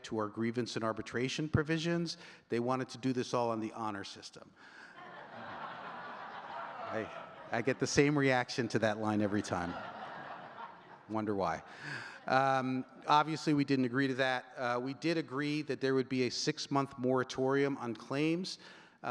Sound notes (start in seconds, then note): 5.4 audience laughing; 9.8 audience laughing